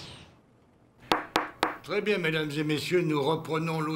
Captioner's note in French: coup de marteau